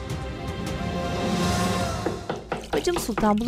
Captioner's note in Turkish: Kapı vurulma sesi